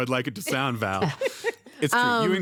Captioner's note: laughter